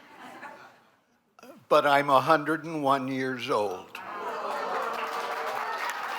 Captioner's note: applause